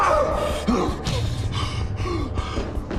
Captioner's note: yells; breathing heavily